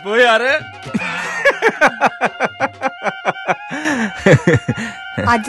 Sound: giggling

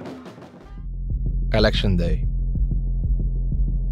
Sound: voiceover

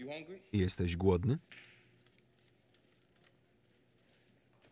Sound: bills crinkling

